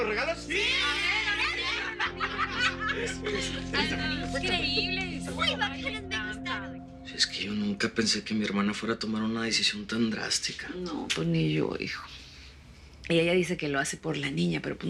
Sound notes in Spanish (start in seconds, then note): 1.7 Hablan al unísono; 3.3 Risas; 5.1 Hablan al unísono